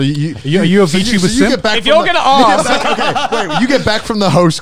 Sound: group chattering

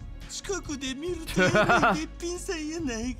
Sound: laughs

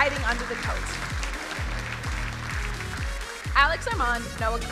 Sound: crowd applauding; vigorous electronic music

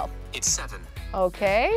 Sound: voice On Phone

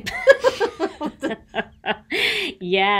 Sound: laugh

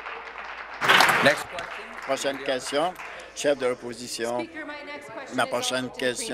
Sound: applause

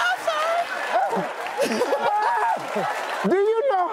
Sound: audience laughing

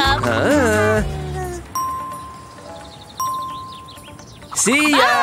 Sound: making happy sounds

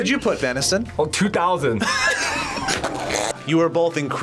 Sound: group laughs

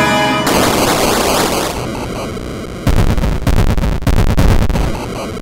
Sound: 8-bit EXPLOSION

